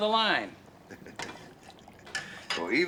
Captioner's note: chuckles